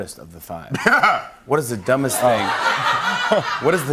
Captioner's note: laughter